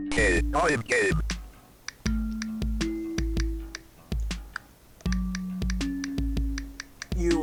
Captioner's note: phone; phone tapping